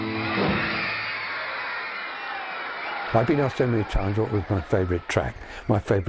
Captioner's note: band playing; crowd cheering